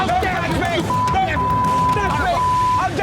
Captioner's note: arguing